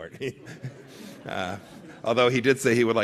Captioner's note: laughter